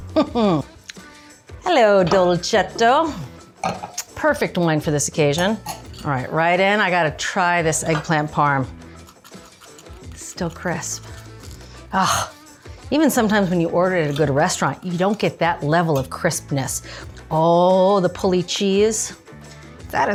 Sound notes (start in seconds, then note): 0.1 Julia chuckles; 8.9 knife scraping